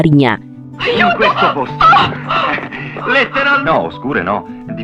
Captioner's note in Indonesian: tertawa